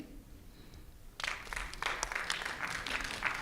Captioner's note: applause